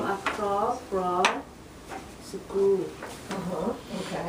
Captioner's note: voiceover